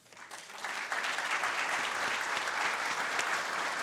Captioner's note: audience claps